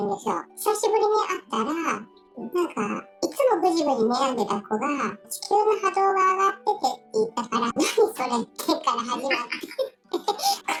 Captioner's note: laughs